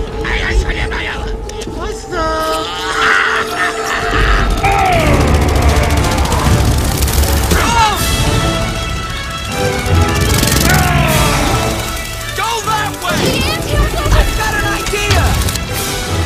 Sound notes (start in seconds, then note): 0.3 speaking foreign language; 2.5 laughing; 7.5 screaming; 10.7 grunting